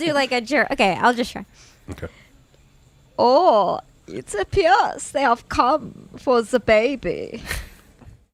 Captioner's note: laughing; sinister German voice